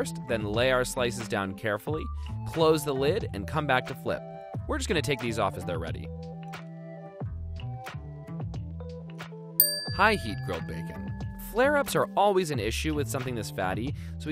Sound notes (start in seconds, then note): 7.4 funky music; 9.6 dings